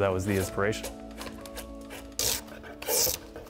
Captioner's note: wood stripping